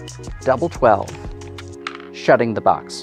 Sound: wooden tabs clattering

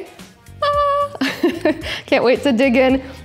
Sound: laughing

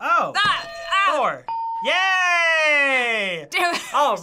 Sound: ding

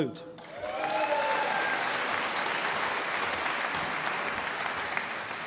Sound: audience applauding

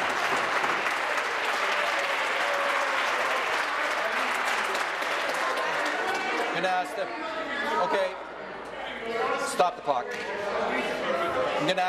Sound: applause

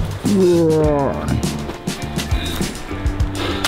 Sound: groans

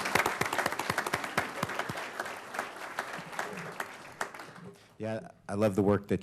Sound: applause

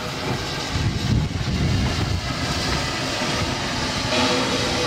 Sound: train chugging

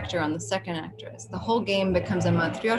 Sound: speaks in foreign language

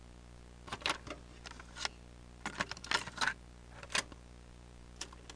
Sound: tape recorder clicks to life

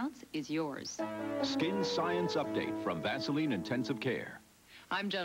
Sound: V.O., over news-like chimes

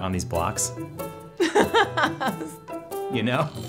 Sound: laughter

